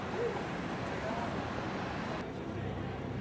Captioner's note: none